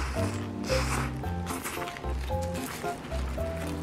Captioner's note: slurping